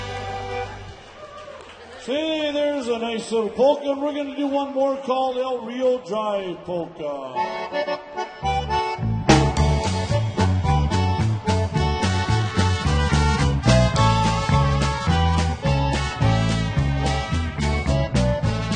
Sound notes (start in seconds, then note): 0.0 cheering and applause; 7.3 lively polka